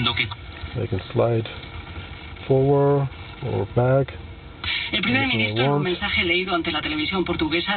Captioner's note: radio plays; radio plays